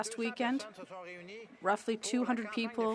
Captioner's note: speaking French